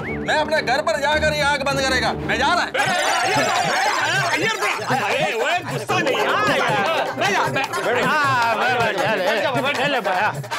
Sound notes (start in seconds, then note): 2.7 clamouring